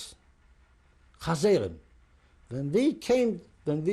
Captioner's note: non-english